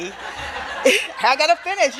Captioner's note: audience laughing